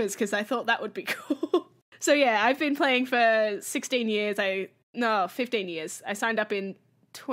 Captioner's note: laughs